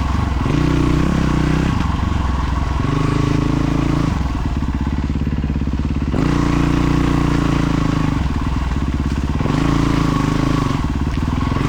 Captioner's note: engine revving